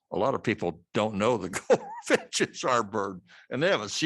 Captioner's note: laughter